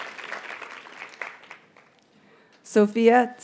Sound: audience cheers and applauds; graduates chant

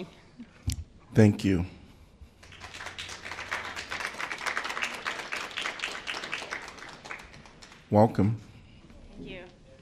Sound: applause

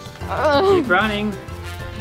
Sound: groans

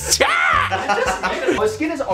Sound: laughing

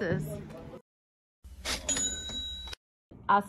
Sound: cha ching sound

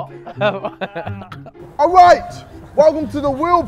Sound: men laughing

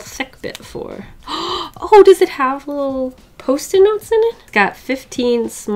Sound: gasps

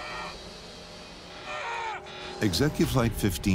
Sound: screaming

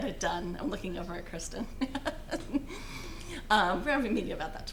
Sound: laughing

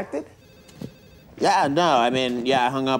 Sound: phone ringing

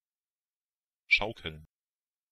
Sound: fast Pronunciation

